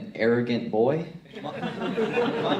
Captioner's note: crowd laughs